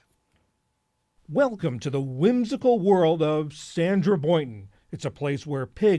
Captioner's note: voice-over